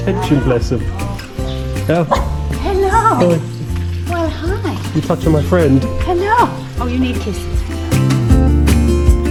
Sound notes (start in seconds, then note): 2.0 dog barks